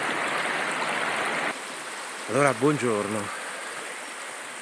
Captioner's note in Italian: Applauso